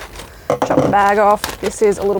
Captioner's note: scissors thumps